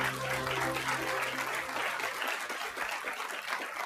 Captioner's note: light music; applause